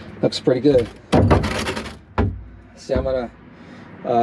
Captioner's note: bin thudding